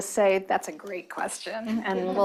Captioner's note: chuckling